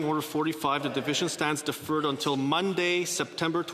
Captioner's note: laughter